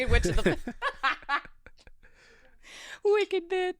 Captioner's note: laughing